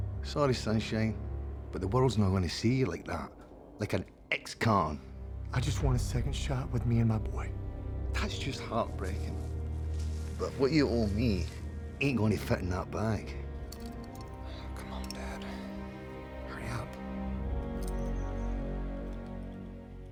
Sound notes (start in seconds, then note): 8.2 scottish accent